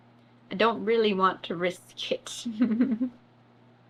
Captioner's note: laughs